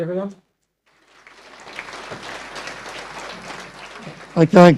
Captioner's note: audience applause